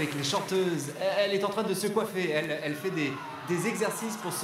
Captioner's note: crowding booing